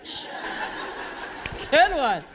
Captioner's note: laughter